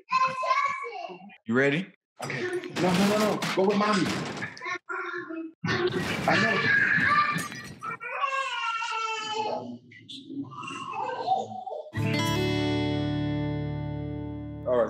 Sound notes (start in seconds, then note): 5.7 banging, crashing; 7.8 child crying; 7.9 child yelling; 11.9 guitar riff